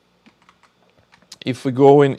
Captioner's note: keyboard clicking